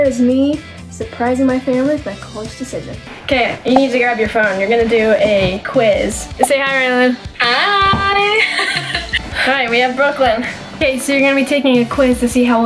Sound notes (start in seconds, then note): 8.3 laughs